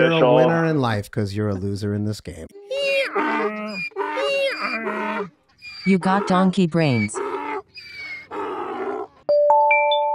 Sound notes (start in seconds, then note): 2.5 braying